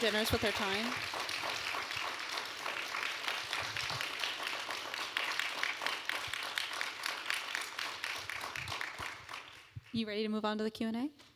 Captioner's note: applause